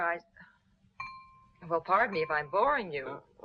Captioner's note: knife clanging